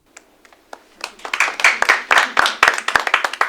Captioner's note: applause